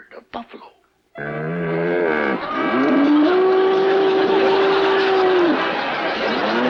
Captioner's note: buffalo bellowing; audience laughs